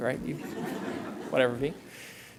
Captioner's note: laughter